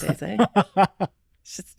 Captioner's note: laughing